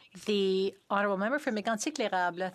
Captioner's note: speaking French